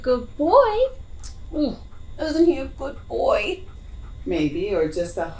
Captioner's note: tuts